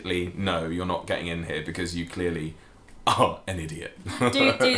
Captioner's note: laughing